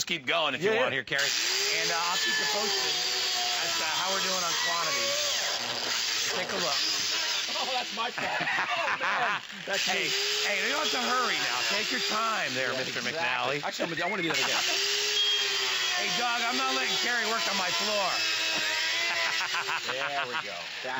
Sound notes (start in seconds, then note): 13.7 laughter